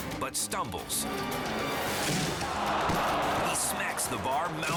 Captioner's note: head thudding